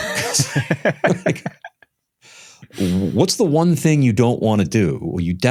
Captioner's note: laughter